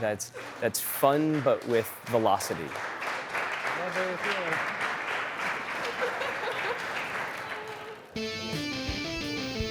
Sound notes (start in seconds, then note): 2.7 applause; 8.2 fast paced music